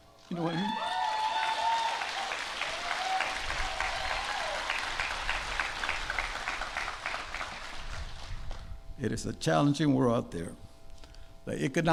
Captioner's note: applause